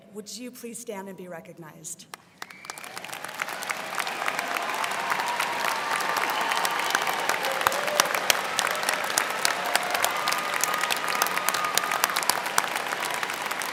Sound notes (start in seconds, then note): 3.0 students cheering and applauding